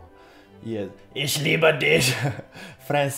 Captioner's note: laughs